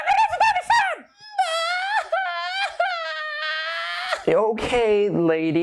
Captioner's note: crying